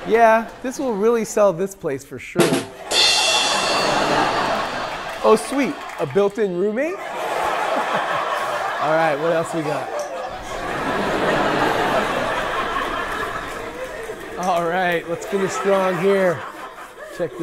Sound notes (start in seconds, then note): 2.4 ba-dum ching; 2.8 people laughing; 7.1 people laughing; 10.7 people laughing